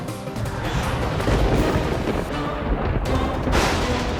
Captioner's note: thundering